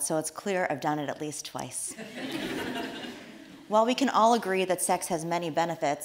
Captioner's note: audience laughs